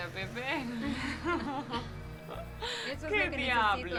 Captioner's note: laughs